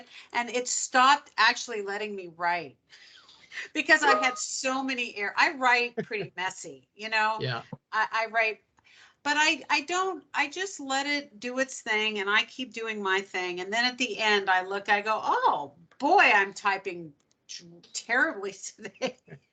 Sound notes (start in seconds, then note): 6.0 laughing; 19.1 laughing